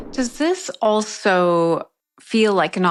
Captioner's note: graphics whooshing